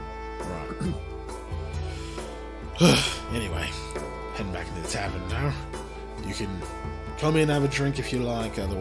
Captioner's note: heavy sigh